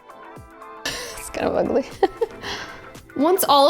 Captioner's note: chuckles